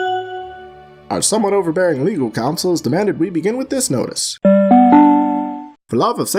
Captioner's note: announcement trill